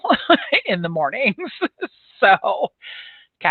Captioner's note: laughs